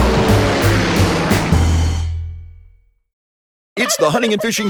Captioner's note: airplane engine whirring